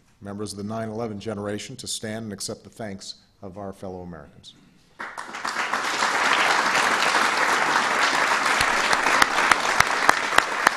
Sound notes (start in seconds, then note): 4.9 applause